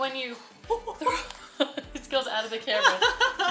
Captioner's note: giggling